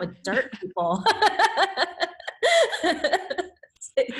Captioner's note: laughs